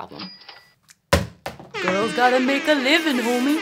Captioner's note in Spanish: suena ring de donación; sonido de bocina